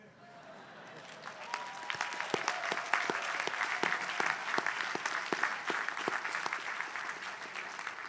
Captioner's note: applause